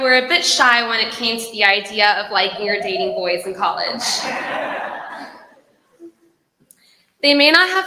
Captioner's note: laughter